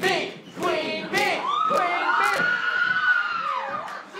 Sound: audience cheering

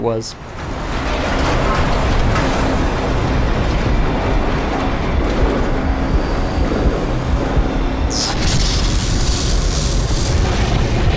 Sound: static Electricity & Aliens Roaring

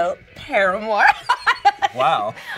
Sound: Jackie laughs

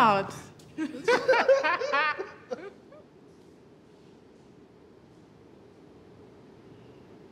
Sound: laughs

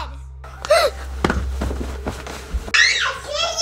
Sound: gasping

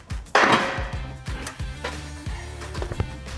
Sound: part clicks; part clanks

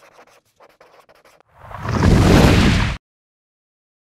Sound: whooshing noise

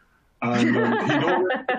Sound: chuckles

